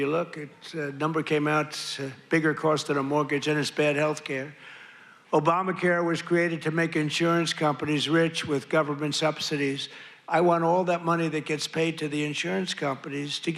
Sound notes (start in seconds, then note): none